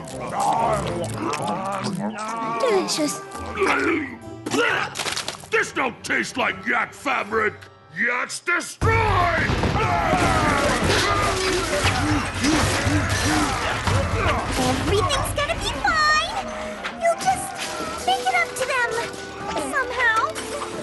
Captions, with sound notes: [chewing and gnawing] delicious. This no taste like yak fabric! YAKS DESTROY! [crashing and growling] Everything's gonna be fine; you just make it up to them somehow.